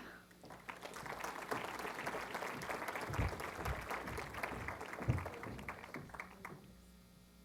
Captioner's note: applause